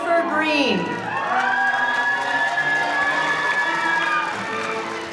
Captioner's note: audience cheering